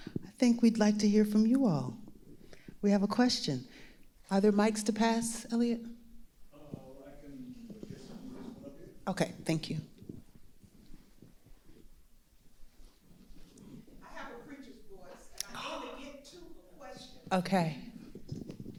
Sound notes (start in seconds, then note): 14.2 shouting from audience